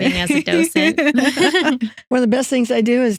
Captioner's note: laughing